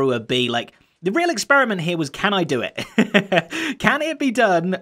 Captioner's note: laughing